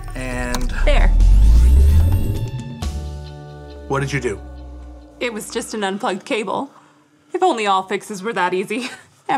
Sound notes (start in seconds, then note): 0.4 machine hums